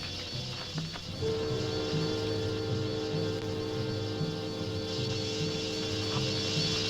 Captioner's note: wasps buzzing; tense orchestral music